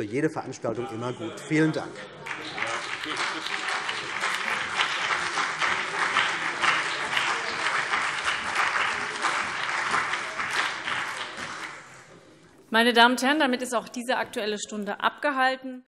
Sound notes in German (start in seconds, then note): 2.0 Beifall CDU und BÜNDNIS 90/DIE GRÜNEN